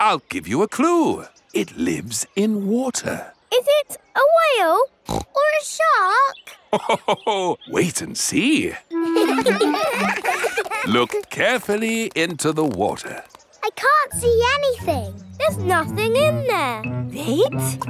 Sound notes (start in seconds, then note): 5.0 snorts; 9.0 laughs; 9.0 children laughing